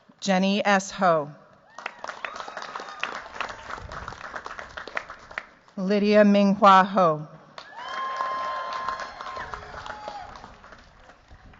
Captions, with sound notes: Jenny S. Ho. [CHEERS, APPLAUSE] Lydia Minghua Ho. [CHEERS, APPLAUSE]